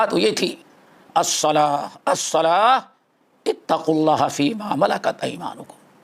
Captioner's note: in Arabic